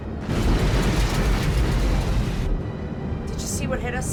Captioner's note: plane rattles